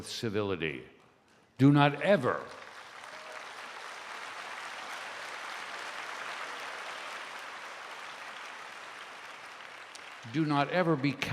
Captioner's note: applause